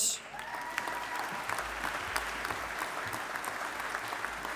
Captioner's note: audience applauding